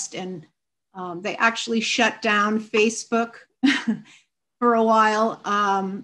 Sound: chuckles

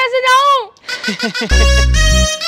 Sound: laughing

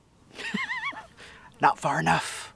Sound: laughs

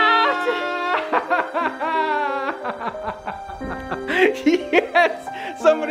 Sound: melancholy music; dad laughing

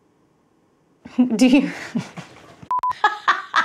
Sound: laughs

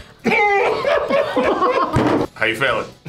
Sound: group laughs

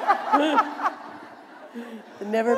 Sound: laughter

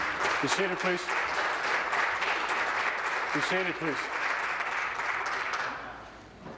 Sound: applause

